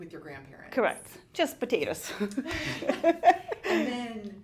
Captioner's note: laughs